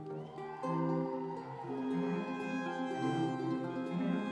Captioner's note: audience cheering; light music continues